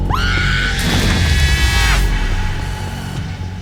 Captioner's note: Casey screams; supernatural scream